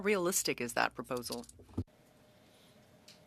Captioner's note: speaking french